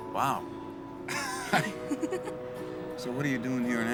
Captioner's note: both laugh